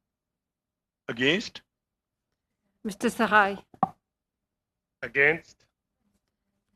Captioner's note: speaking french